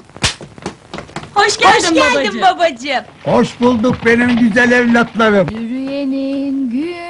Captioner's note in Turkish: hep bi̇r ağizdan